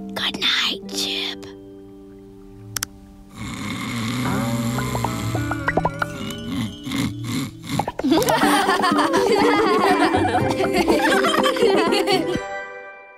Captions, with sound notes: Good night, Chip. (snoring) (laughing)